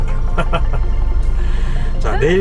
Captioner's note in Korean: 웃음